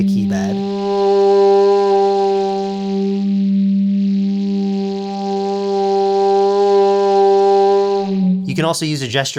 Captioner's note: oscillating, softly moaning tone